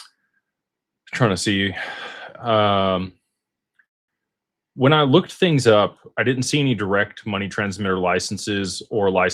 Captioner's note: sighs